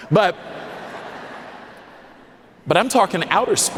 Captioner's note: audience laughing